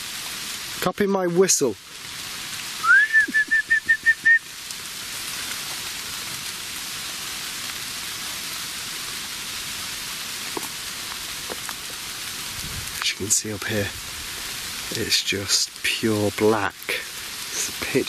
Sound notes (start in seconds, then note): 2.8 whistling; 5.5 rain pattering